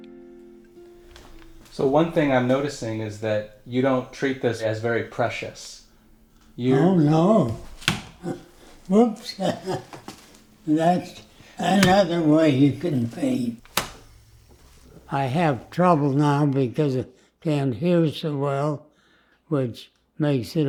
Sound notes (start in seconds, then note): 7.9 paint splats; 9.4 laughs; 13.7 paint splats